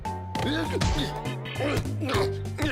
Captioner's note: grunting